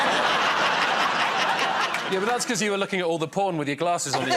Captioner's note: laughter